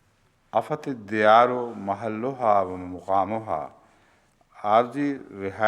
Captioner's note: Arabic